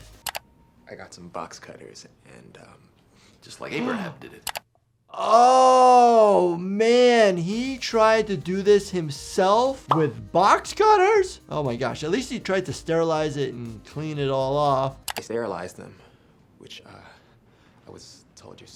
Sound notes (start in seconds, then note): 0.1 mouse clicking; 4.1 doctor gasps; 4.4 mouse clicking; 9.8 graphic popping